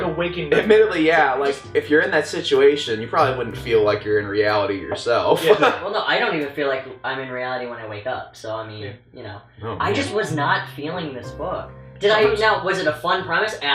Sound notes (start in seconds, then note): 5.3 laughs